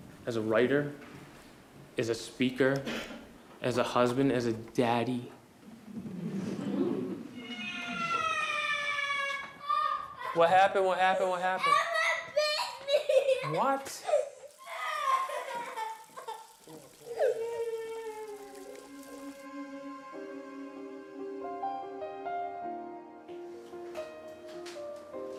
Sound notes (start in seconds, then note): 5.8 audience giggles; 7.3 crying; 14.4 crying; 16.4 water running